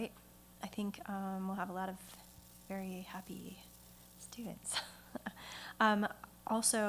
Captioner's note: chuckles